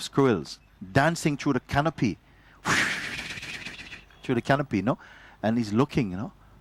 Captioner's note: whooshing sounds